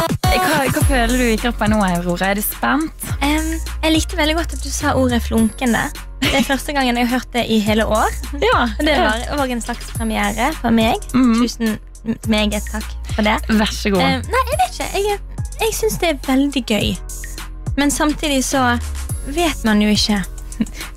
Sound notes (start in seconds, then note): 6.0 sparkling